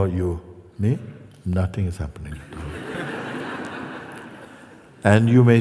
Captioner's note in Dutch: gelach